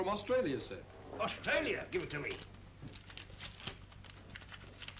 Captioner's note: envelope rustles